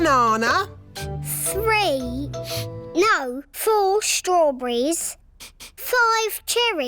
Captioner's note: sniffs